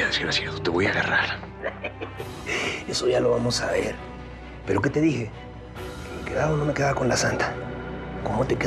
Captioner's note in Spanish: risas